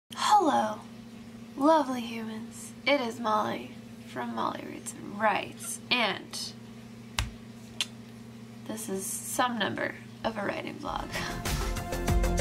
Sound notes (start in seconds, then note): 7.1 snaps; 7.8 clicks tongue; 11.1 upbeat music